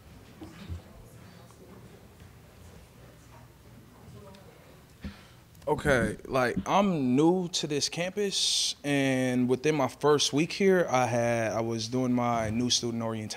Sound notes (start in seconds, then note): 5.6 crowd murmur